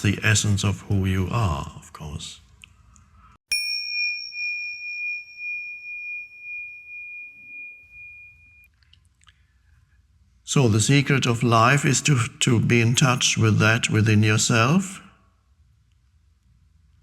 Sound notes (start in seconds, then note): 3.5 bell dinging